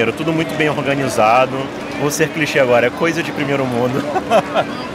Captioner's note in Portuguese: risos